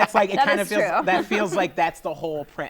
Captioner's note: laughter